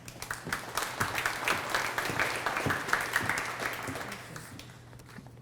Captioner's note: applause